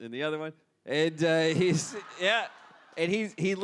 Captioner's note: audience laughs